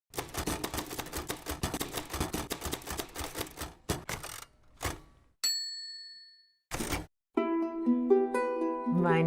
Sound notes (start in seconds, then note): 0.1 typewriter keys clicking; 3.9 typewriter carriage swings back; 5.4 carriage return bell dings; 5.6 carriage lever clicks